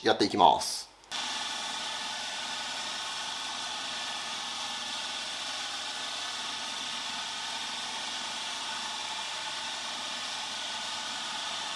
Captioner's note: working sound